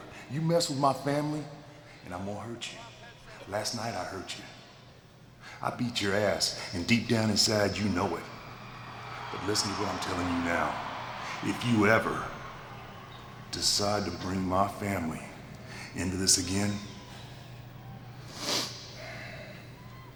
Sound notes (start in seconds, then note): 8.1 crowd cheering